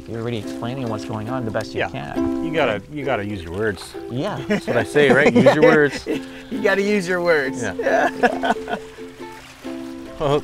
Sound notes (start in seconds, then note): 4.2 laughs